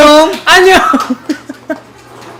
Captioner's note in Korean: 웃음